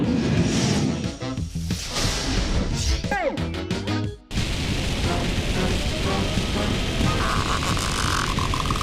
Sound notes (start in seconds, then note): 7.3 squeaking